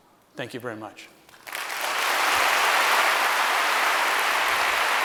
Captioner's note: applause